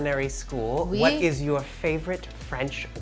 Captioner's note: Marcela speaks in foreign language